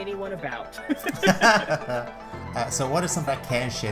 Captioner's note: laugh